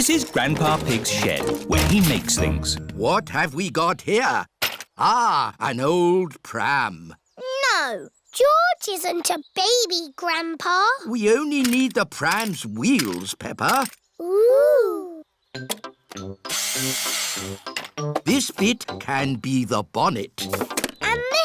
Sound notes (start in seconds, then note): 16.8 whirring